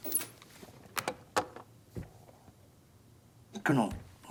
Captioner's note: door open close